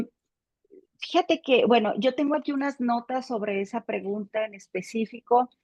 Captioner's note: speaking Spanish